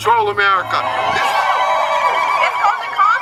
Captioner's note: cheering